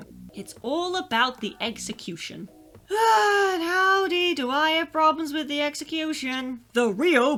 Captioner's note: deep sigh